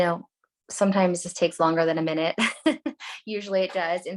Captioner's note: laughs